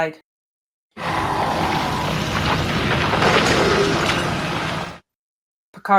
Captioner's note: beast roar and rock tumble